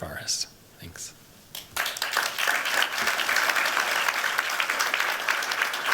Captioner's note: applause